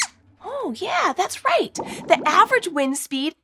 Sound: squeaks squeaks

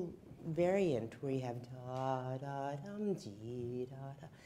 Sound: humming

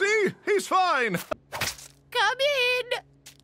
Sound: squish sound

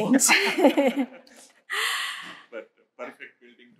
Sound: crowd laughs

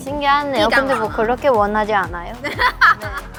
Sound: haha; laughing

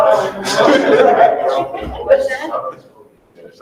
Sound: person laughing softly

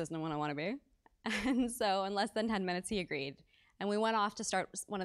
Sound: laugh

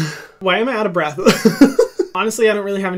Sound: laughs

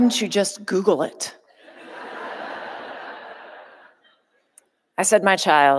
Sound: audience laughing

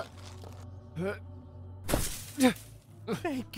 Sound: grunts

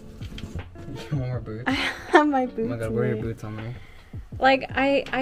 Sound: laughs

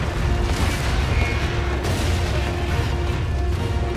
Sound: explosions echoing

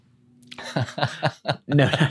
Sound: laughs

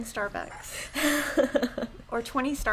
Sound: laughing

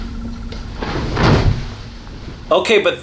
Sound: bed thudding

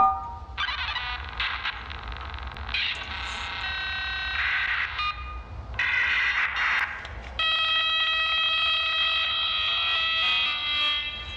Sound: dial-up sound

